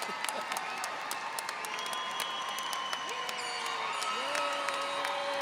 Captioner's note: audience applauding